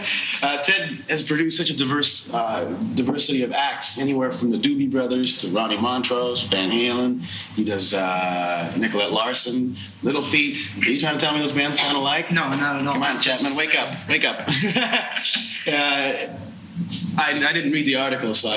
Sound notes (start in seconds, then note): 16.1 laughing